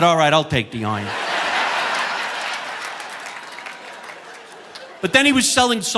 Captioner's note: audience laughing